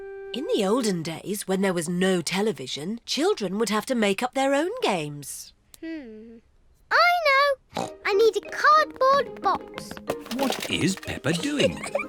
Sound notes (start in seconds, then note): 7.7 snorts